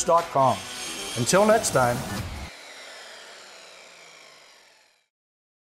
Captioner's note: circle saw grinding